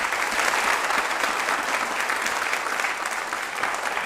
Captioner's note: applause